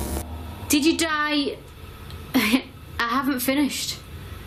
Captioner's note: static noises; laughs